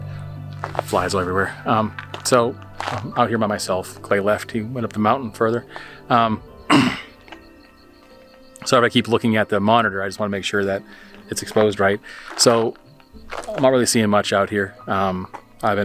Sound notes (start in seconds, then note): 6.6 clearing throat